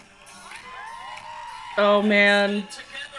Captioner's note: crowd cheering